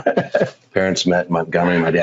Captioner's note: laughs